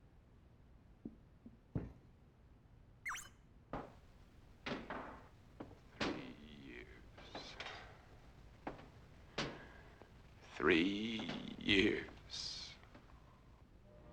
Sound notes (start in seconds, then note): 3.0 Cherry beeps